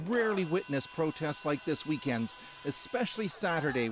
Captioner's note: chanting